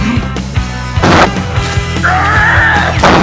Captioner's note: crashing Sound